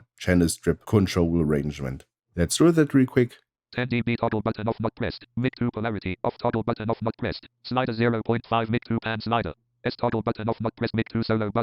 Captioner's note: automated voice